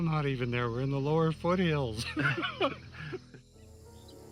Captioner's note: laughs; dramatic music